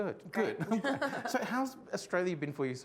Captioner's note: laughing